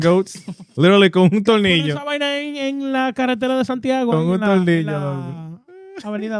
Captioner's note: speaking In Foreign Language